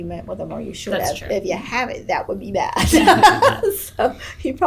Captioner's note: laughs